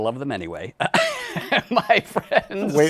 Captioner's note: laughs